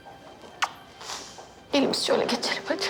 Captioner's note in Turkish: Öpme sesi